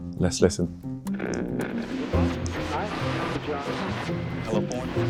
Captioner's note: radio buzzing